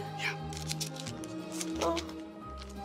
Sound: paper crinkles; romantic music

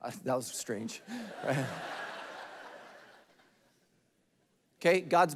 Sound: congregation laughing

